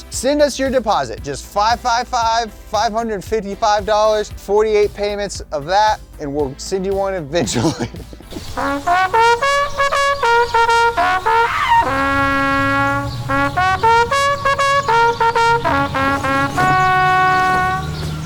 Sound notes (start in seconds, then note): 7.3 laughs; 8.2 trumpet playing; 8.6 birds chirping; 17.8 birds chirping; 17.8 car engine roaring